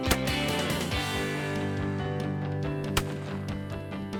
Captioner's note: multiple gun shots